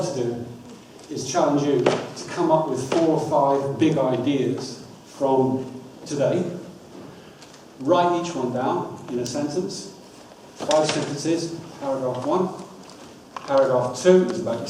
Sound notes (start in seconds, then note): none